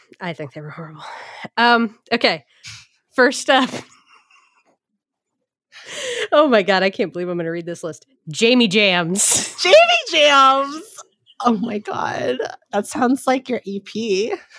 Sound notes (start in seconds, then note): 3.7 laughs